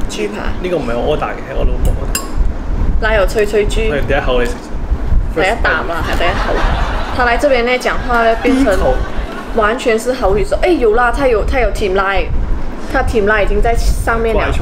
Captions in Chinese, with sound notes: 老公：这个不是我点的，是我老婆点的 奶油脆脆猪 老公：你先吃第一口 是第一啖（粤语），不是第一口 他来到马来西亚后，说话都变成口语了 有啦，它有甜奶 甜奶在面包上面了